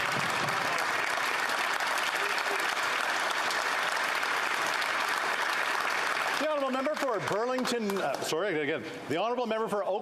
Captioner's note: applause